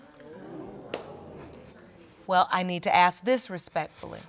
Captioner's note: audience exclaims